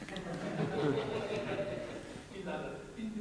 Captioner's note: audience laughing